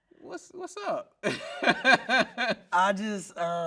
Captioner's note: laughing